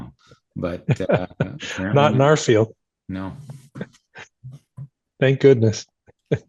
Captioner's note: laughing